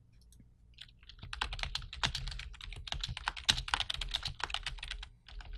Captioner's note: typing on keyboard